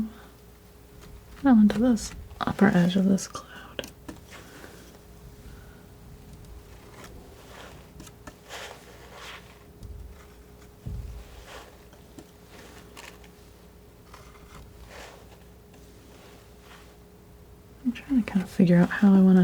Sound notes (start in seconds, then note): 3.5 scratching